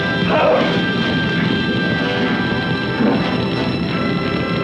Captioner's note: fire crackling